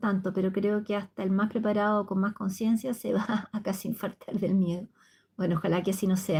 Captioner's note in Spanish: risas